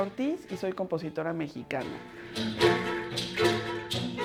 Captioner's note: speaking Spanish